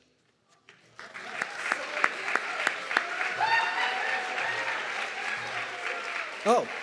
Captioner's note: audience clapping and cheering